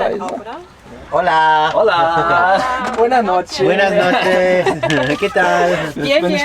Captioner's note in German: auf Spanisch